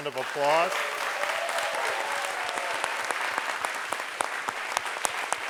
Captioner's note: audience applauds